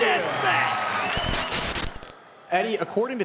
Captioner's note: static buzzes